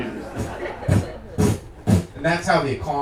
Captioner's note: audience laughing